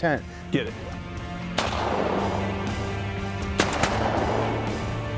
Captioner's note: gun shots